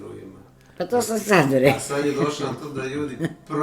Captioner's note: laughter